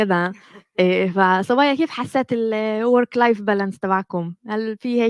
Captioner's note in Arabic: لغة أجنبية